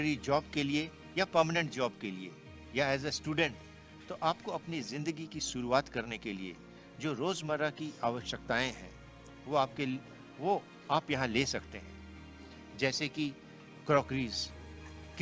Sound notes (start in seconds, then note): 0.4 non-english speech